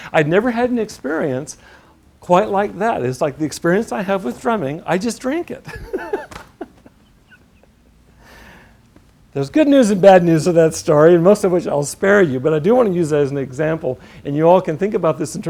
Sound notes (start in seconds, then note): 5.6 laughter